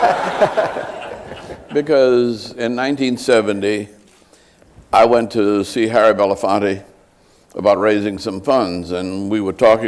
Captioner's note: laughter